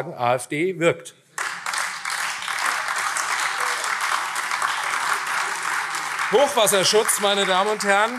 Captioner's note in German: Beifall AfD